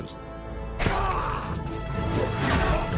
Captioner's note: grunting